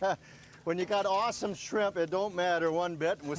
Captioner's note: laughing